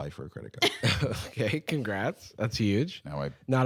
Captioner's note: laughing